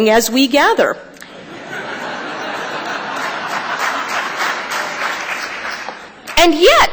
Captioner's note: applause; laughter